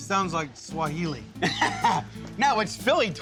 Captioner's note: laughs